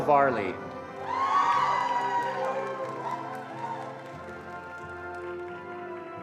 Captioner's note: attendees cheering and applauding